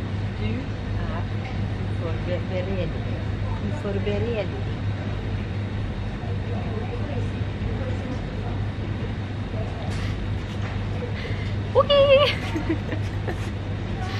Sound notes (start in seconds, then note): 11.7 Norwegian